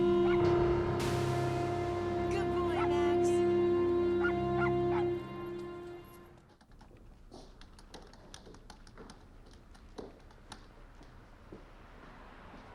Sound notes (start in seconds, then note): none